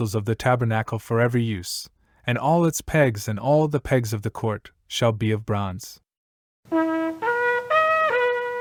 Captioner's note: shofar blast